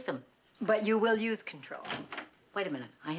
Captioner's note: door opening